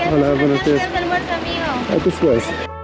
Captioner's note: speaking Spanish